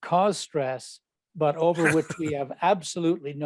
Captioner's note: chuckles